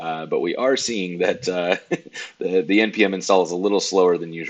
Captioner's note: laughs